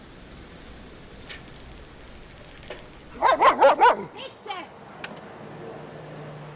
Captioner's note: dog barks